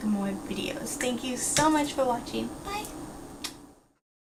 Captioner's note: kiss